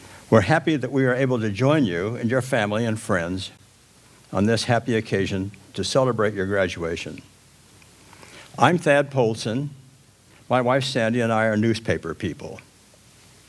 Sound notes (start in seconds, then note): none